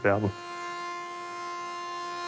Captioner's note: whirring